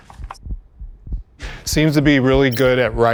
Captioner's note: heart beats